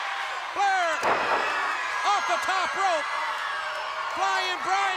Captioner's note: body thudding; crowd cheering